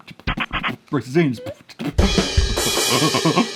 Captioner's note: beatboxing; cymbals crashing